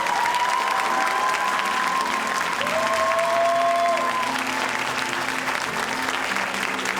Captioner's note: audience applauding and cheering